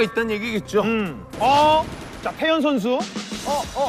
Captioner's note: firing shots